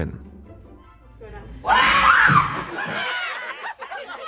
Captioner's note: screams